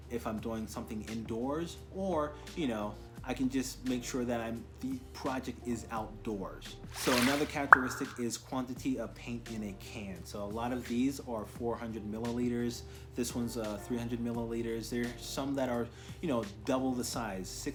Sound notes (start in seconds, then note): 6.9 swoosh pop